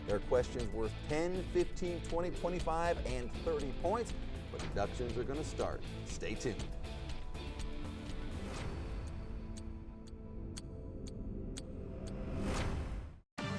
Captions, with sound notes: There are questions worth 10, 15, 20, 25, and 30 points. Reductions are gonna start. Stay tuned. (clock ticking)